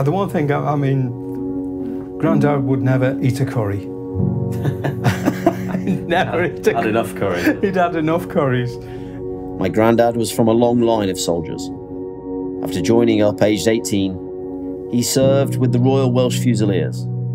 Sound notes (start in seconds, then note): 4.6 laughing